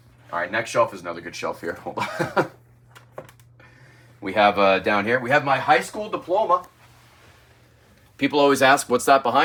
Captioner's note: laughs